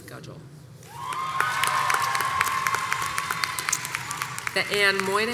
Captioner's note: audience applauds and cheers